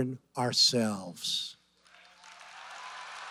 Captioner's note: applause